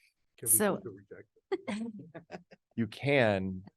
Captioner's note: participants laugh